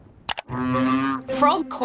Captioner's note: croaks